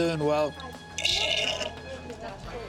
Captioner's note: slurping